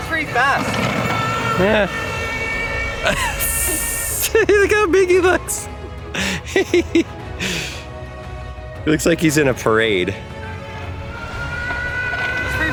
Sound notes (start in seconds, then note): 6.1 father laughing